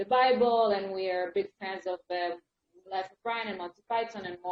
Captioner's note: speaks faintly